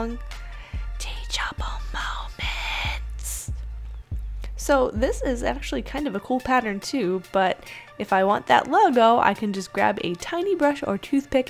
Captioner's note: whispered